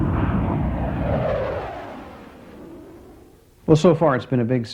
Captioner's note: jet engine roaring